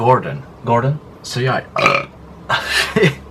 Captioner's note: burp; laughter